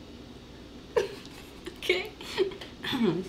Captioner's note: laughing